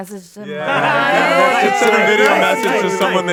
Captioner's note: all cheer